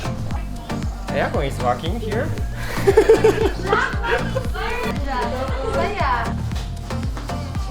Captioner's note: chuckles